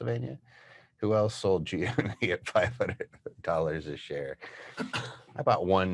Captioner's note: laughs